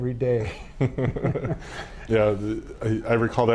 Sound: chuckling

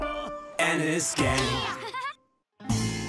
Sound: upbeat tropical music plays; girl's voice

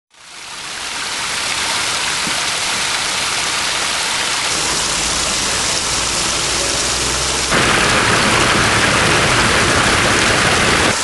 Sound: sounds of running water

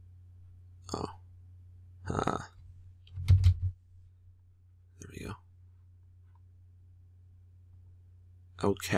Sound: typing

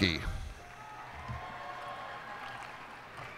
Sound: cheers and applause

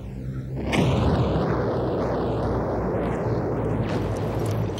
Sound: explosions booming

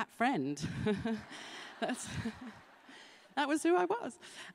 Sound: laughter

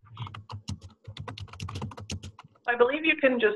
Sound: keyboard clacking

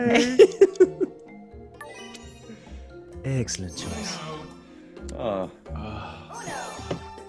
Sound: laugh

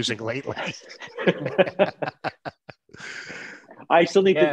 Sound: laughing

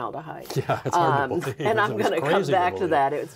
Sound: laughing

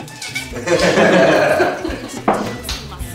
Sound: laughes

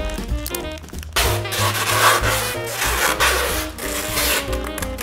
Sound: upbeat jazz music; tape crinkling

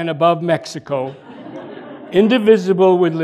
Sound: laughter

